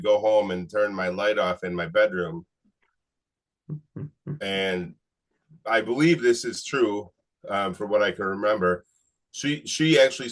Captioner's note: chuckles